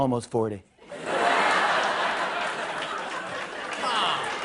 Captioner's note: laughter and applause